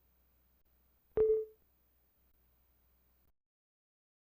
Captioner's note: windows user account control sound